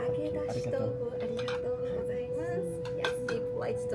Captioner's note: speaks Japanese